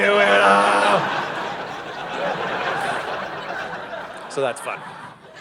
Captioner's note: audience laughing